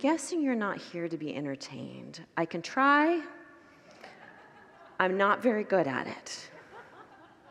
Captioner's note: congregants laugh